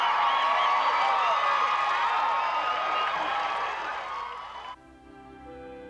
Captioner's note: cheering